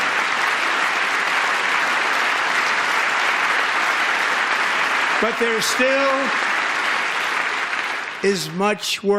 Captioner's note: applause